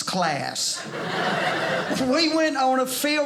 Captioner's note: audience laughing